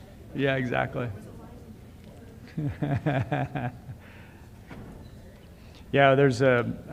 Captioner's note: laughs